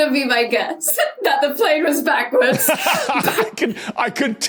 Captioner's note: laugh